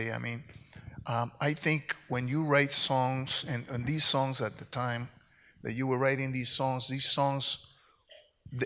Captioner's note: none